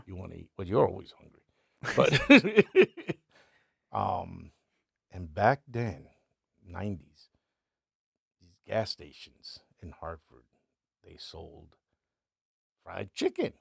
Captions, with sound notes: You wanna eat, but you're always hungry. (laughing) And back then, 90s, gas stations in Hartford, they sold fried chicken.